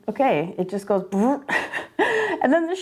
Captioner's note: laughing